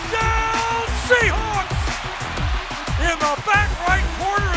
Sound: crowd cheering

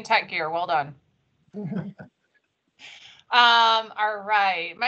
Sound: laughs

